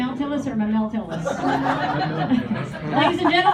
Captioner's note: laughter